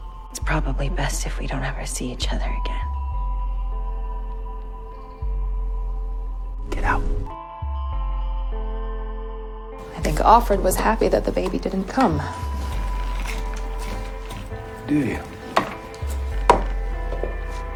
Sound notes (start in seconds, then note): 6.8 whispering; 9.9 voiceover